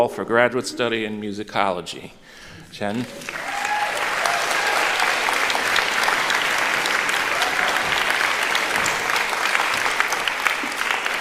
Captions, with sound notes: for graduate study in musicology. Chen. [APPLAUSE] [CHEERING]